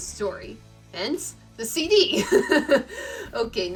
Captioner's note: laughs